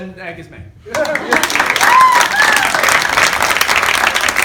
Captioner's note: applause